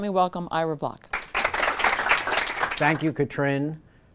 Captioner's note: applause